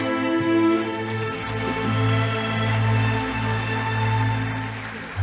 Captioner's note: audience applauding